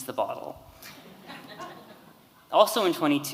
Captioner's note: audience laughing